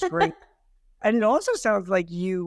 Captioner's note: laughing